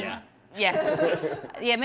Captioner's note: laughter